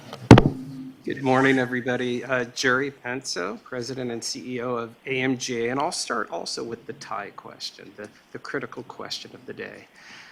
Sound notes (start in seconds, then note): none